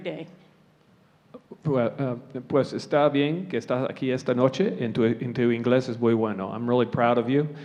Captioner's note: speaking spanish